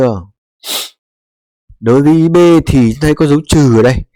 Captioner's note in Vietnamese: khịt mũi